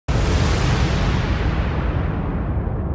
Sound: explosion

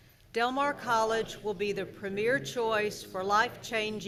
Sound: crowd

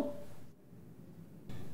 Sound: confused

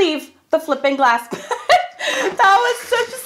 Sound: laughs

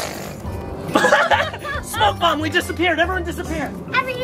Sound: all laugh

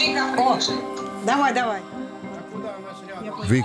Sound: on phone

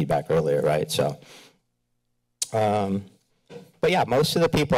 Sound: kisses teeth

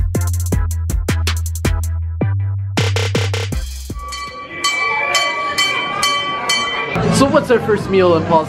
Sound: bell ringing

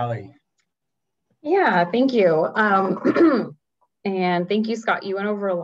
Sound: clears throat

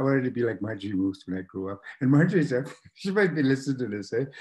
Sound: laughs

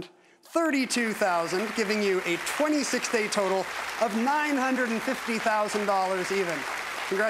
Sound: applause

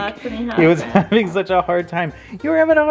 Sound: laughs

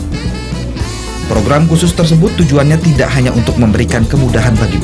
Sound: non-english speech

